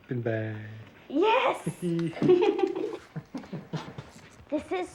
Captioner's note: all laughing